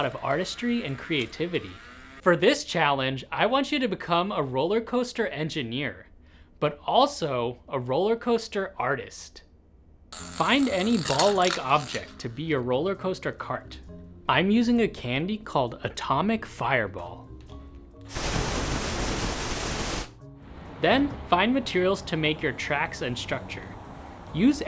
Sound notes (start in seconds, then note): 18.1 blazing flame